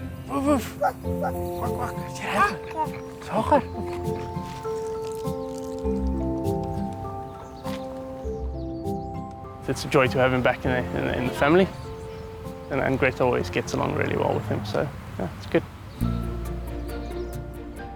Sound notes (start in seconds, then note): 0.7 dog barking; 2.3 child babbles; 3.3 speaks in foreign language